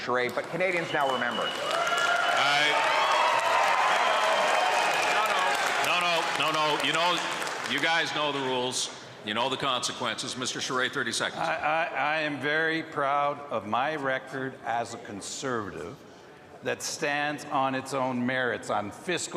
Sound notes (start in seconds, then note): 7.2 cheering and Applause